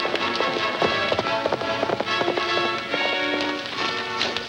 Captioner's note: horse galloping